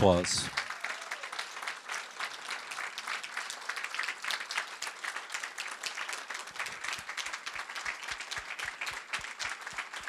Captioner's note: applause